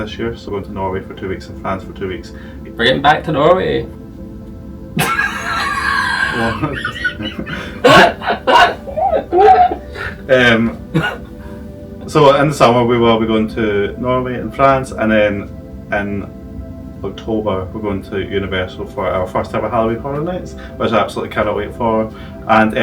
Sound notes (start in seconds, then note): 5.0 laughing